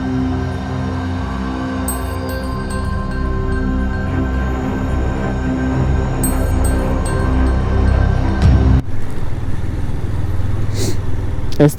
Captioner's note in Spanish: resoplido